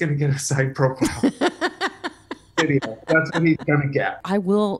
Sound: laughing

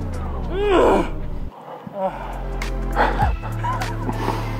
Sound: grrrr; sigh

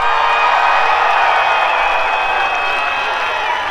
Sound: crowd cheering

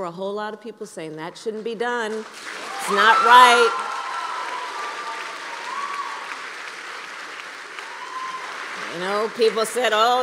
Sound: applause

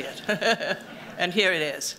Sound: chuckles

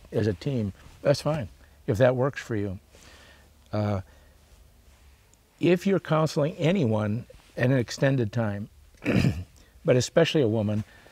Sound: clears throat

